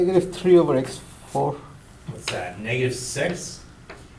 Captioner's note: voiceover